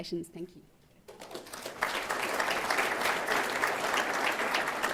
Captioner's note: applause